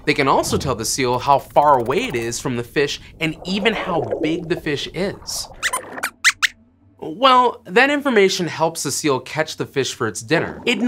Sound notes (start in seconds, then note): 5.5 squeaks squeaks